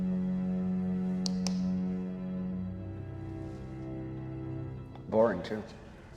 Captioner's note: suspenseful music continues; hand slapping